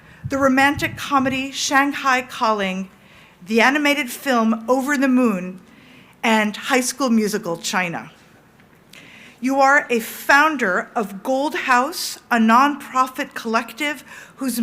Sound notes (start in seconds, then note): none